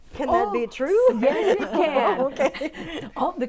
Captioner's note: laughing